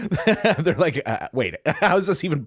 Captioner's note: laughing